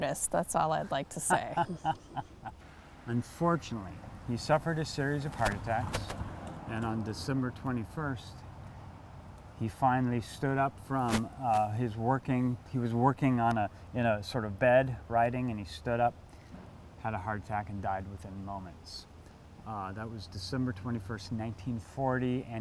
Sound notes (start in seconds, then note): 1.1 laughs